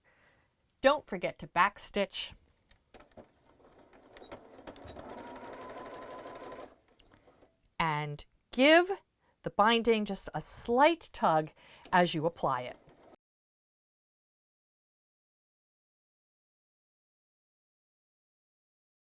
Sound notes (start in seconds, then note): 3.1 sewing Machine Sounds; 13.1 no Sound Present